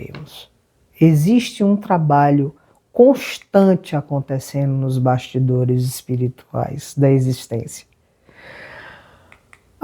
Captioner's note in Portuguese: suspirando